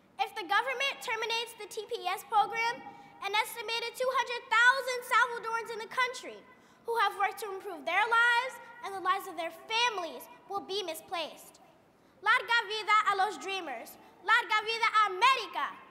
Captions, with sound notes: If the government terminates the TPS program an estimated 200,000 Salvadorans in the country, who have worked to improve their lives and the lives of their families will be misplaced. (foreign language)